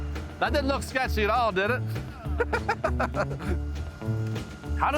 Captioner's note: laughs